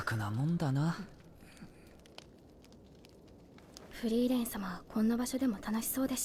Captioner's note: Korean